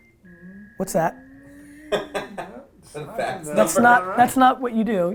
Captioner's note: laughs